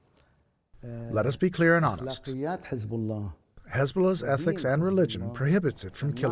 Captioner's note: through translator